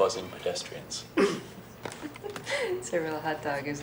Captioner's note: laughing